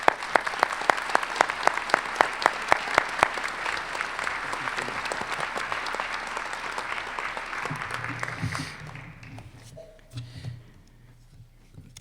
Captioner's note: applause